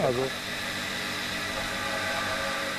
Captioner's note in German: Dröhnen